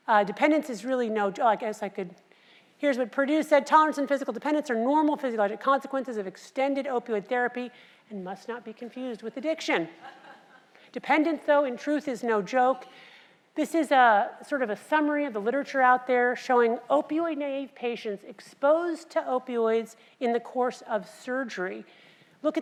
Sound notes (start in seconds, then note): 10.0 laugh